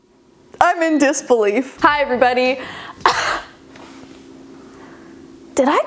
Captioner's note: coughing